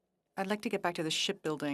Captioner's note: speaking French